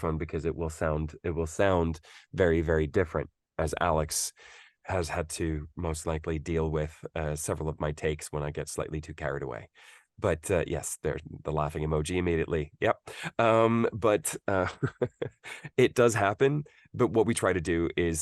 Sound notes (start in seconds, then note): 14.3 laughs